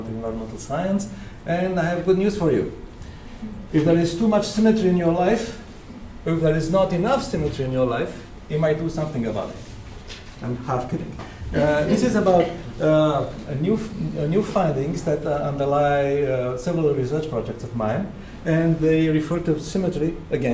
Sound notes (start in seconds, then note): 10.9 audience laughter